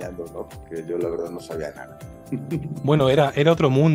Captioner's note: laughs